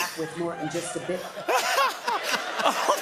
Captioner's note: laughter